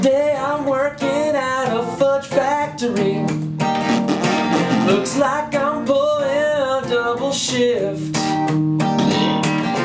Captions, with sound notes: Today I'm working out of a factory *FARTING SFX TO BEAT* Looks like I'm pulling a double shift